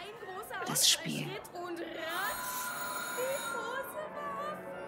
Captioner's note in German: klingel